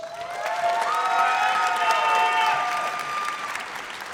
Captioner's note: audience cheers